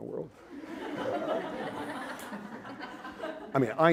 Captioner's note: laughter